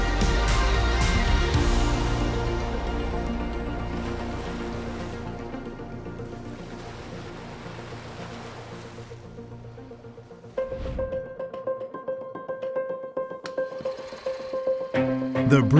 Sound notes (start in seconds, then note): 0.0 bright upbeat music; 7.2 waves crashing; 11.5 techno music